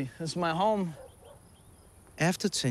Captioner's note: dog barks